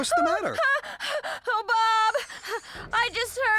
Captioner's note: breathless